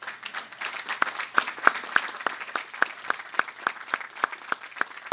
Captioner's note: audience applauding